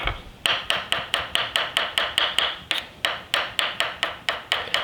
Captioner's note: knife mincing